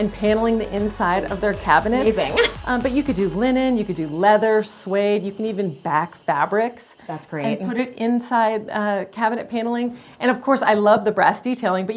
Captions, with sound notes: and paneling the inside of their cabinets- - Maybe (laughing). - But you could do linen, you could do leather, suede, you can even back fabrics. - That's great. - And put it inside cabinet paneling. And of course I love the brass detailing,